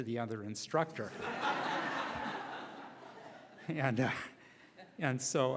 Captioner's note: laughing